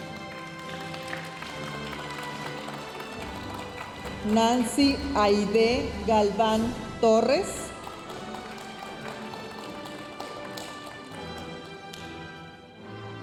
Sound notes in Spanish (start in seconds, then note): 0.2 continúa la música majestuosa suave en el fondo; 7.7 aplausos de la audiencia